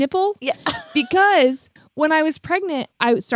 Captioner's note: laughs